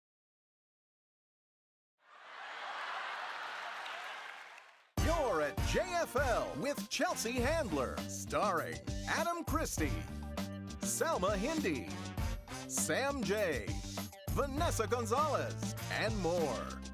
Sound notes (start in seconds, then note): 2.3 laughing